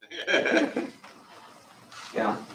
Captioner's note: laughter